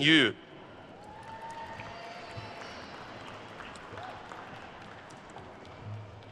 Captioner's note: attendees cheering and applauding